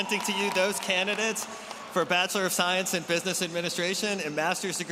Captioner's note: applause